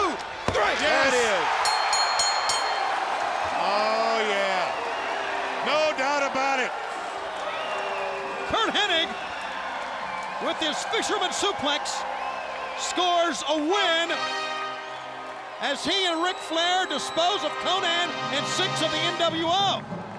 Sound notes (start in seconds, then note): 0.4 hands thudding; 1.5 bell ringing